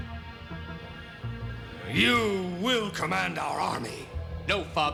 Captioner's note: grunts